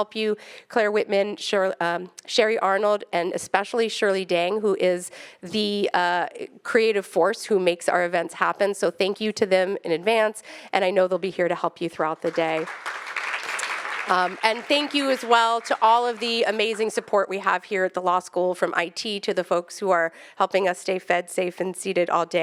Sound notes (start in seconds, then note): 12.2 attendees clapping